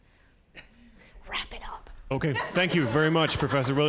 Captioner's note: audience laughing